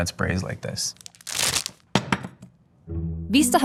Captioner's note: wrapper ripping; burrito thumping